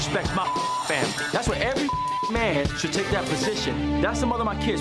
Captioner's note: beep